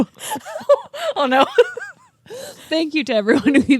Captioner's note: both laughing